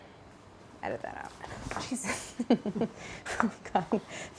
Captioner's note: laughs